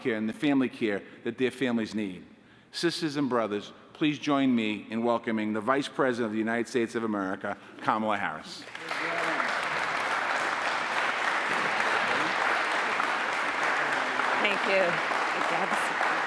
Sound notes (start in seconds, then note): 8.6 applause